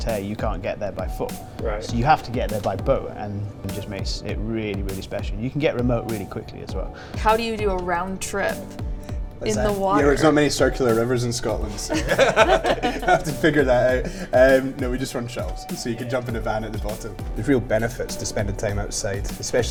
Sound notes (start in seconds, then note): 11.7 laughter